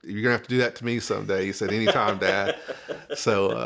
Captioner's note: laughs